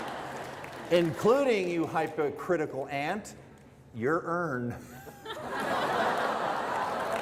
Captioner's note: laughter, applause